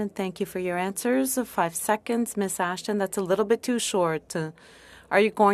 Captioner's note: speaking French